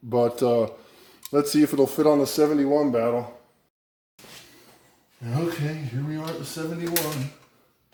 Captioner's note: none